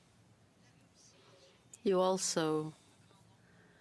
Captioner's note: speaking French